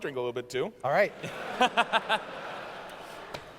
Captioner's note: laughter